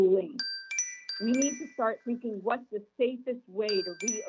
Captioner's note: chime